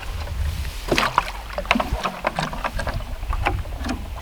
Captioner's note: splashing